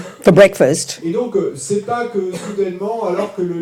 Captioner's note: audience member speaks in French